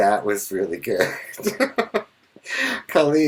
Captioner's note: laughing